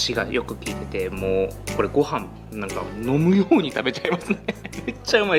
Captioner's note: laughs